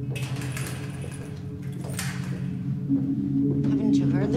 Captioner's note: rattling